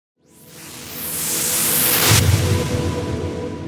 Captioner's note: whooshing